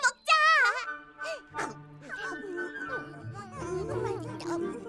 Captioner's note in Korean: 먹는 소리